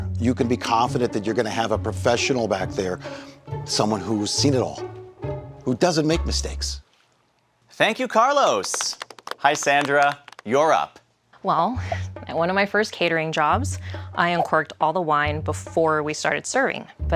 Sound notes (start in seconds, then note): 7.8 audience lightly applauding